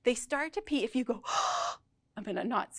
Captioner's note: gasps